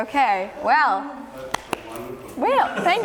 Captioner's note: claps